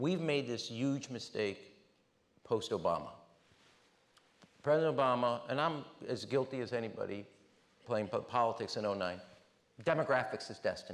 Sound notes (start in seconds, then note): none